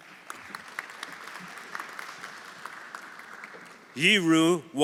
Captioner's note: everyone applauding